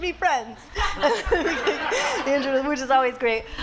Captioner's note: laughs